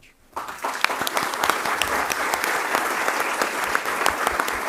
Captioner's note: audience applauding